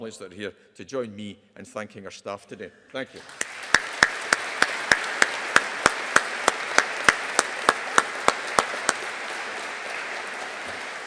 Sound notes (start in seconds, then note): 3.2 audience applauding